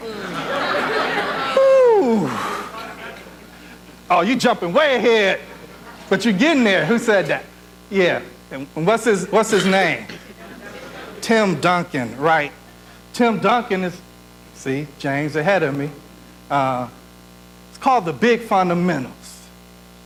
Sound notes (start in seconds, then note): 0.0 audience laughs; 10.1 audience responding